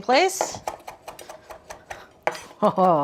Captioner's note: knife tapping